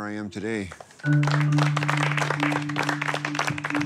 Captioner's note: claps